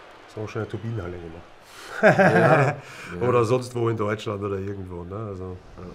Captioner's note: lachen